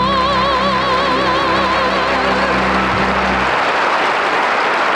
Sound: audience applauding

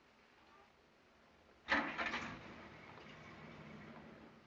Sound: ignition starts

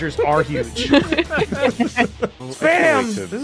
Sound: laughter

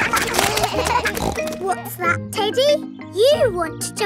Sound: kids laughing; snorts

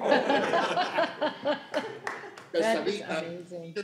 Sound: laughing

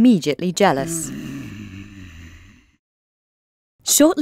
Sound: angry grumbling

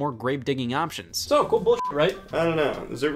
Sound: beep

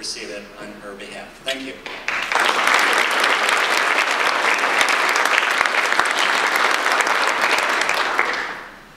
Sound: audience applause

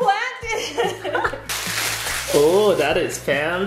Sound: laughing

